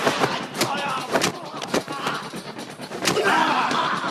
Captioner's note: dramatic music; grunting, sounds of combat